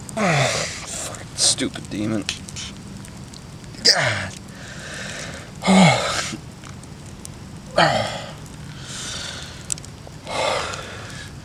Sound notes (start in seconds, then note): 4.6 exhales Sharply; 7.7 inhales and Exhales Heavily